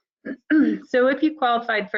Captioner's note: woman clears throat